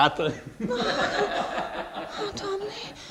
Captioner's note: both laugh